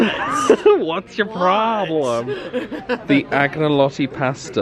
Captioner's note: laughing